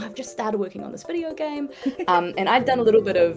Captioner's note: Ruby giggles